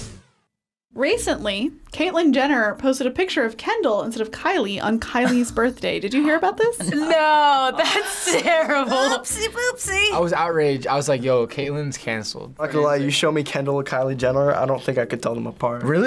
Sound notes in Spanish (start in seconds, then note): 7.5 jadeo